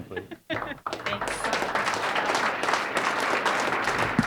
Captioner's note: audience applauding